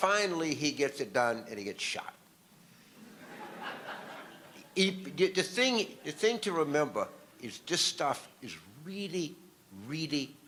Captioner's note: audience laughter